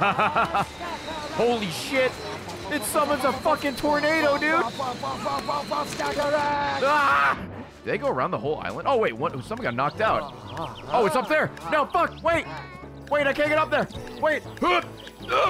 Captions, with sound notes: (laughs) Holy shit, it summons a fricking tornado, dude. (screams) Do they go around the whole island? Oh wait, something got knocked out. Oh it's up there. No frick. Wait, wait, I can't get up there. Wait.